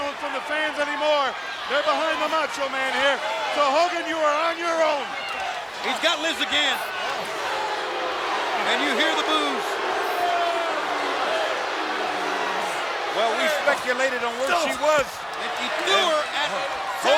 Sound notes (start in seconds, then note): 10.0 audience booing